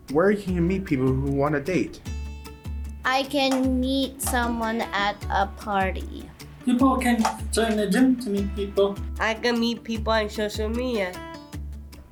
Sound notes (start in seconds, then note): none